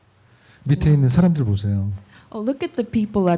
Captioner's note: speaking korean